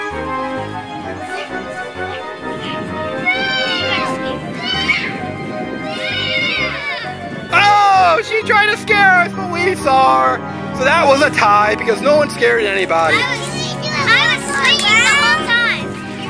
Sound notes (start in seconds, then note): 0.6 spooky music; 5.4 children yelling